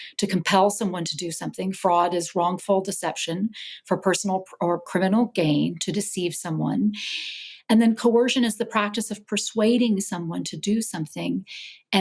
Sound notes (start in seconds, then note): none